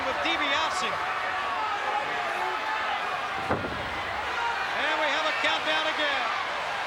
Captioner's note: applause